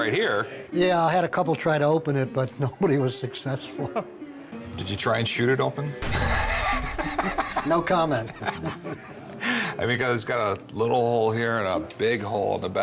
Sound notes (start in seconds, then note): 6.1 laugh